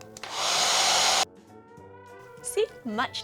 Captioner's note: hair dryer blowing